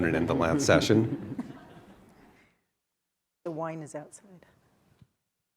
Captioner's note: laugh